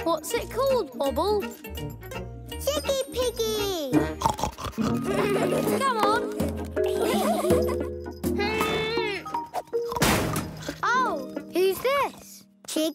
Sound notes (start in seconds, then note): 4.0 snorting; 7.1 laughing; 9.1 struggling grunts